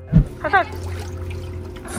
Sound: water splashing noises; background chatter

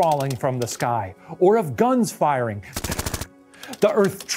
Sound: machine gun firing

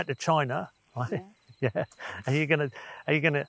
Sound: chuckles

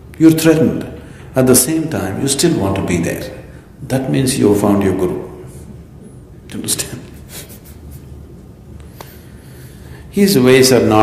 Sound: laughs

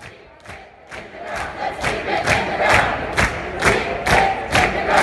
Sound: chanting

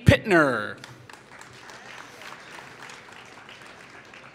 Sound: applause

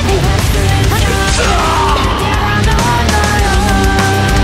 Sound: fatal scream

